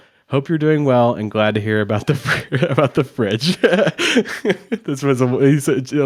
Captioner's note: chuckles